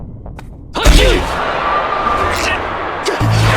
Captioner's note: audience cheering